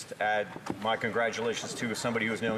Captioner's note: speaking French